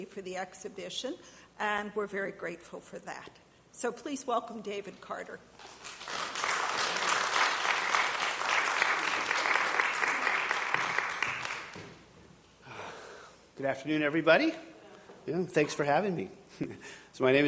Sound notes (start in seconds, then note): 5.6 audience applauding